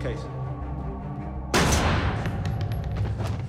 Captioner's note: gun fires; body clunks